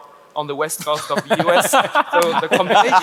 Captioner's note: panelist laugh